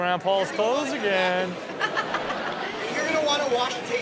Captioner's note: all laugh